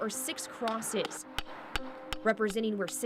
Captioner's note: hammer strikes